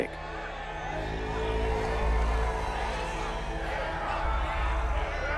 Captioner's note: indistinct yelling